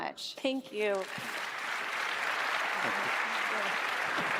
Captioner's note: applause